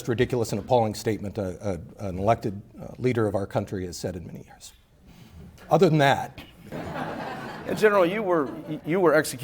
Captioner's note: laughter